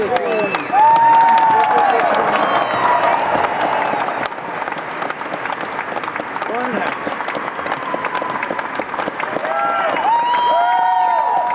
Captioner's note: applause